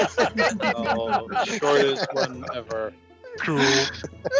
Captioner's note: all laughing